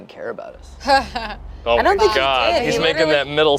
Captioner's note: laughs